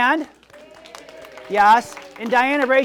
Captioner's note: audience applauds